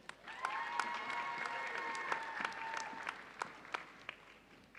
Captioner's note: audience applauding